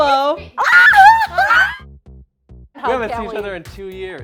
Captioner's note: screams